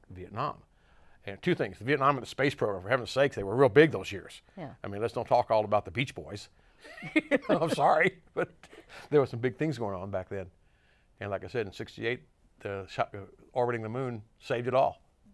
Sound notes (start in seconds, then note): 6.9 laughs